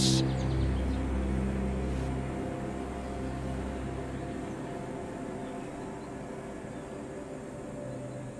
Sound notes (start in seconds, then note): 0.0 birds chirping; 0.0 light dramatic music